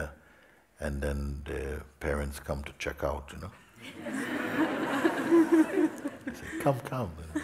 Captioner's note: smiech